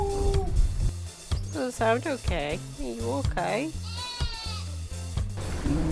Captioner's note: goat noises